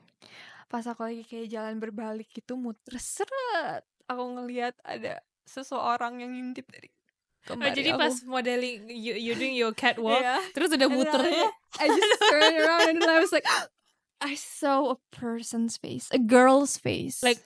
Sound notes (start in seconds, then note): 13.4 gasp